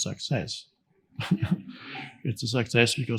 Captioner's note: chuckling